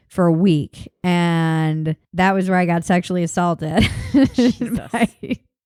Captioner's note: laughs